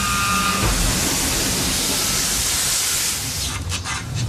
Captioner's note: air hissing